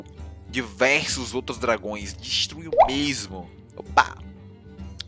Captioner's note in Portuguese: som de água da live